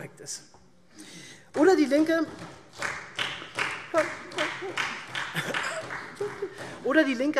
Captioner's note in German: Beifall SPD